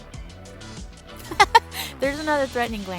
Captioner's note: laugh!